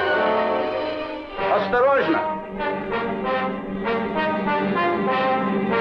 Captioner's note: soldier speaking in Russian